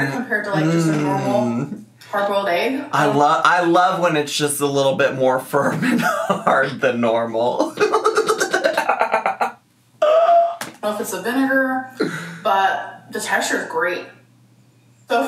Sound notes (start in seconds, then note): 7.7 laughing